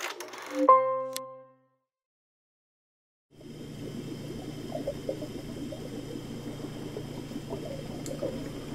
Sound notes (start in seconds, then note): 0.6 piano note; 3.4 muffled underwater sounds